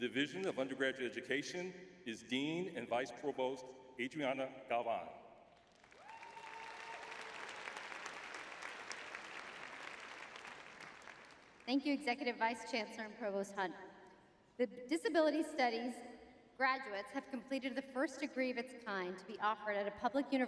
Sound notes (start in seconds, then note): 5.8 cheering